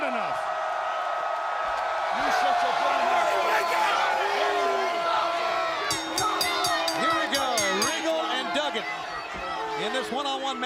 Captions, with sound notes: HE'S NOT SMART ENOUGH. >> [CROWD CHEERING] >> [CROWD CHATTER] >> [BELL RINGING] >> HERE WE GO. REGAL AND DUGGAN IN THIS